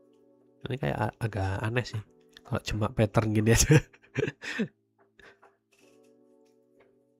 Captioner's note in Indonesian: tertawa